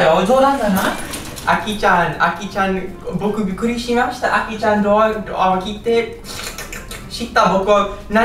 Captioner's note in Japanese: すする音